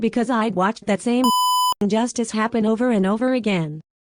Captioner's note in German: Piep